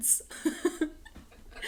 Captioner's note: laughs